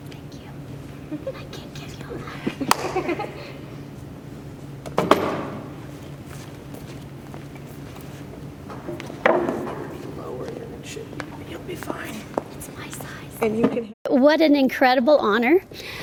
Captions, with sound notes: - Thank you, I can't give you a hug. (hand claps) (girls giggle) (chair thuds) - Lower it and it should be, you'll be fine. - It's my size. - What an incredible honor.